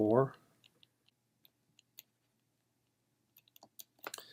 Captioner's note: typing